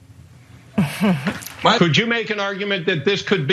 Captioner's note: laugh